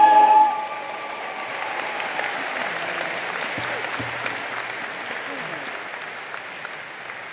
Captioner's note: crowd applauding